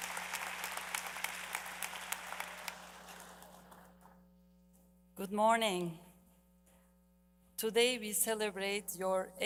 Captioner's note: applause